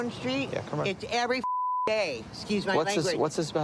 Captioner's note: beep